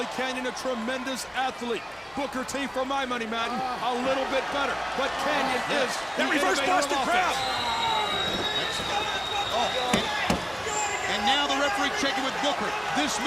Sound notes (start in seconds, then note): 7.9 crowd cheering